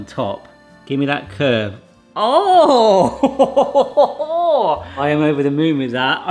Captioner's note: chuckles